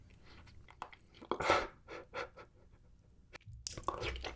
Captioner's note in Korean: 헛웃음